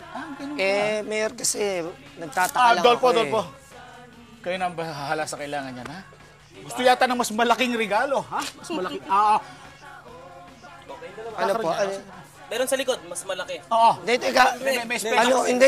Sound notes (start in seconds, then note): 8.3 chuckles